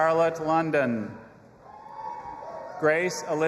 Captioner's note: audience applauding and cheering